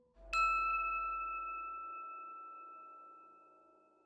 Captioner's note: bell chimes